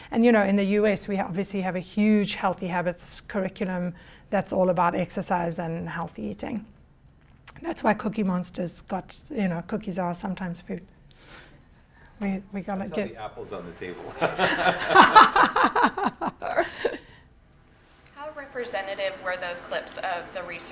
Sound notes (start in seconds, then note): 14.0 laughter